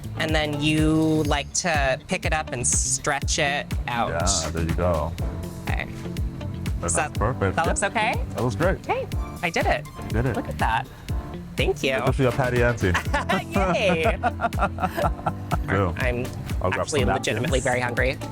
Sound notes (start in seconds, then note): 12.8 both laughing